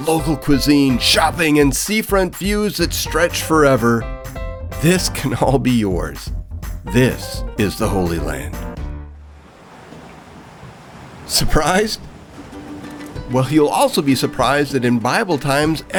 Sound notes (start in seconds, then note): 9.2 waves crashing